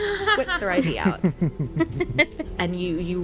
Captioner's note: all: laughter